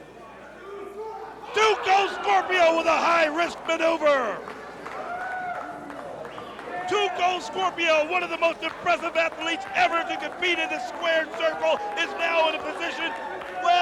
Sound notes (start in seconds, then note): 0.0 crowd chatter; 11.1 crowd cheering